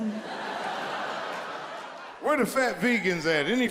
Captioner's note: audience laughs; chuckles